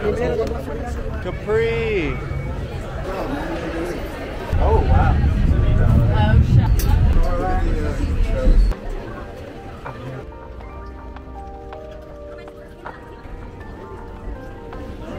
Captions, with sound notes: Capri. - Oh, wow. - Oh- (people chattering) (gentle music)